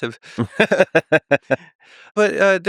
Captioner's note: Tim and Lex laughing